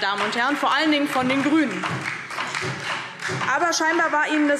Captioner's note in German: Beifall